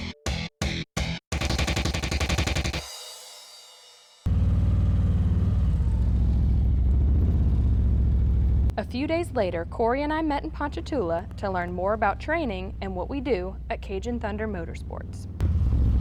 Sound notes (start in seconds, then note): 0.0 exciting rock music; 4.5 engine rumbling